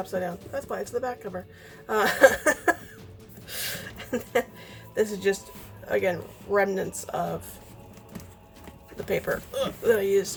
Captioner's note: laughs